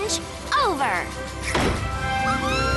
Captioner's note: knock